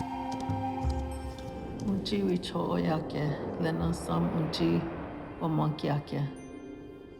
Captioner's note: speaking Lakota